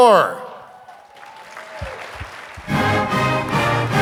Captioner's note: audience applauding